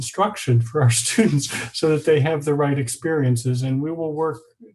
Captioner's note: laughing